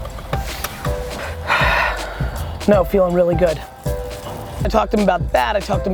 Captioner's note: sighs